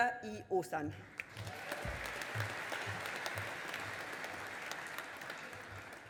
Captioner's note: audience applauding